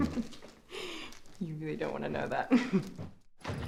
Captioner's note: chuckles